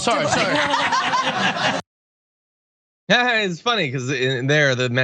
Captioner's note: laugh